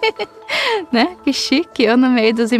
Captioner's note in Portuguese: Risos